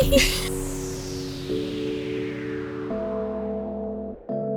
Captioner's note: laughing; soft Music